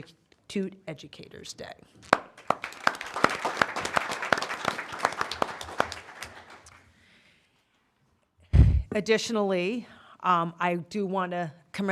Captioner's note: applause